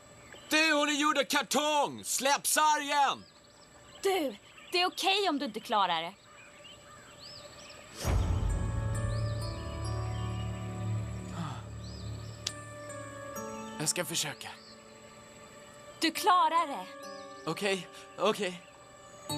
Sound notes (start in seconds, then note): 11.2 sighs